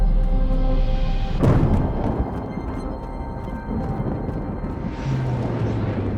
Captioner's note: thunder